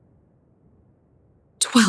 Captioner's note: whispering